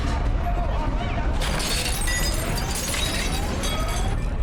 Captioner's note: glass shattering